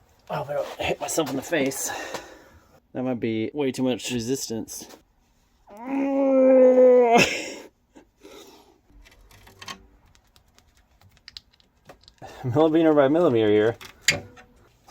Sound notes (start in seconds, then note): 5.6 strains in effort